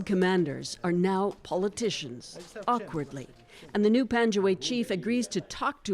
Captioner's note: speaking Foreign Language